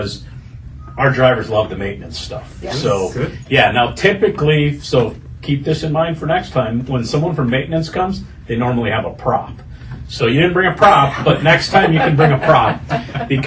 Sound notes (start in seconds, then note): 11.1 laughter